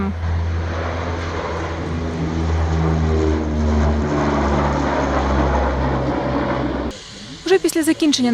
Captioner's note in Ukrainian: шум літаку